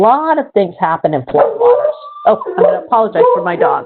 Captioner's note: dog barks